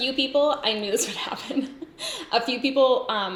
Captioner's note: giggles